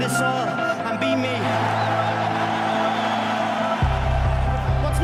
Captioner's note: crowd cheering